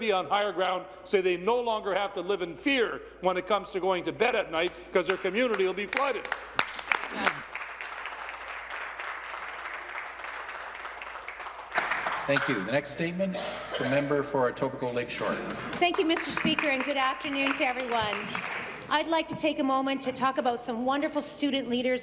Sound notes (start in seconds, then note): 15.6 applause